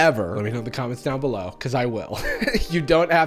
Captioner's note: laughs